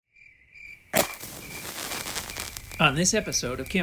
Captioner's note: crickets and a match strike